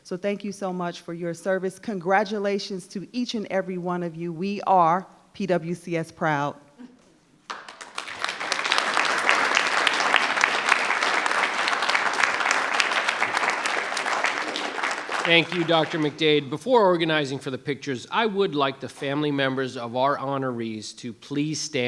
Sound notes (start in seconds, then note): 7.4 audience applauding